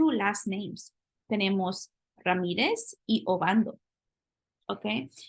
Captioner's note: spanish